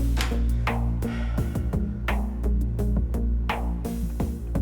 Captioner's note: Jan breathing